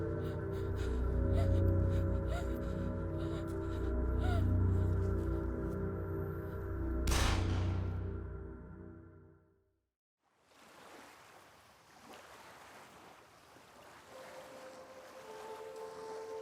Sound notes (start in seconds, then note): 7.0 gun fires; 10.4 waves splash; 11.1 peaceful music